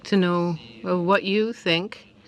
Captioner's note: speaking French